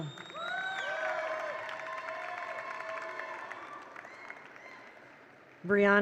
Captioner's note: attendees cheer; attendees applaud